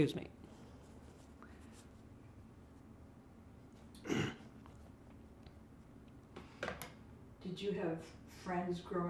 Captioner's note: pauses 6 seconds